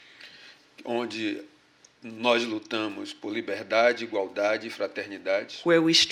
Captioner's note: speaking portuguese